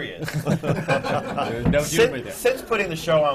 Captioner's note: laughter